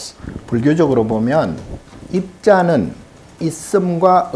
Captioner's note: speaking Korean